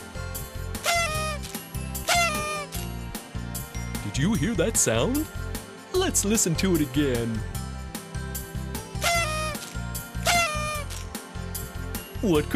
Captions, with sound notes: (SOUND OF A PARTY HORN) DID YOU HEAR THAT SOUND? LET'S LISTEN TO IT AGAIN. (SOUND OF A PARTY HORN)